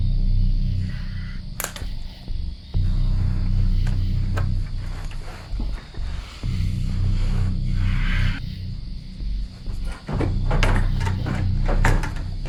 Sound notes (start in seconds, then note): 1.6 zip ties snap